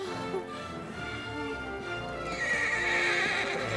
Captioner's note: horse whinnies